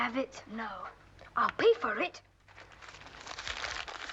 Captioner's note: money crinkling